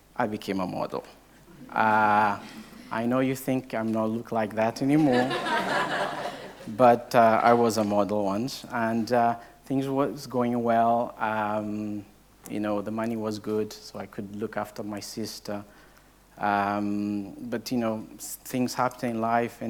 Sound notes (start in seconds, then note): 5.0 audience laughing